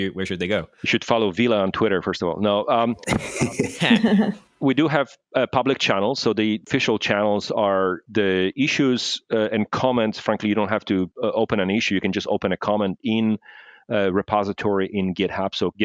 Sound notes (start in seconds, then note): 3.0 laughter